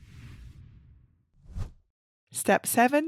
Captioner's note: image whooshes